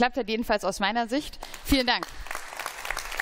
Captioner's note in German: Beifall